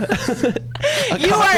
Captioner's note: laughs